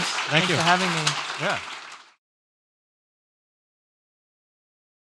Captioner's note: audience clapping